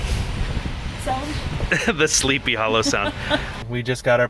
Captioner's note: laughing